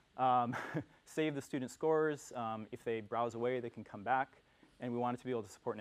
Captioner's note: laugh